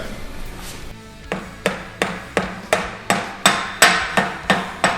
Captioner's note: banging